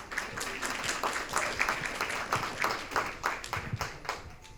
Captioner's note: audience applauding